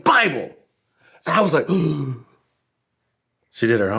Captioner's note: gasping